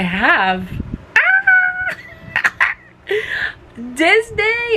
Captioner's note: laughs